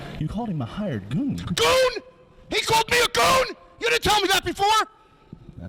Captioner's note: none